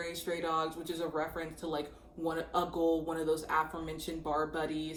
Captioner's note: speaking faintly